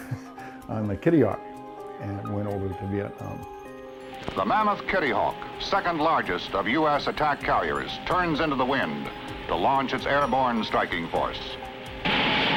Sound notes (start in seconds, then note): 4.7 voiceover